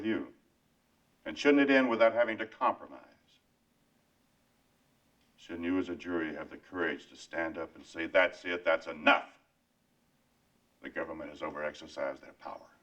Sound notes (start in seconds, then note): none